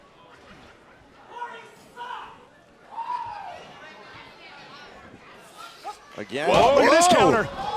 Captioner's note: crowd chatter